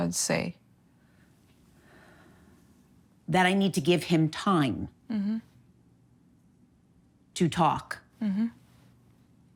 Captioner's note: sighs